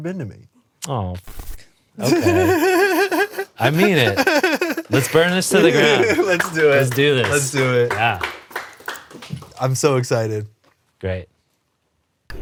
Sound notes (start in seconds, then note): 2.0 laughs; 7.9 clapping